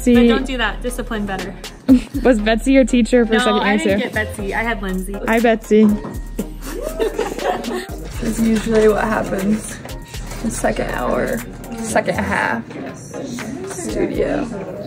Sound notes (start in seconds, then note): 6.6 laugh